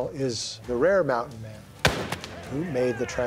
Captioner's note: gunshot